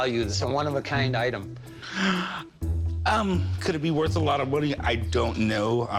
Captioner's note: deep breath